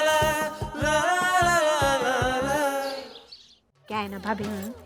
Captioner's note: pleasant vocalisation